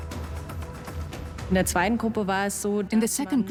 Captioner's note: in German; dubbed in English